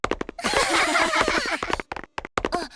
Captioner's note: laugh